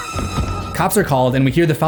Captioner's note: suspenseful music; Vicky screams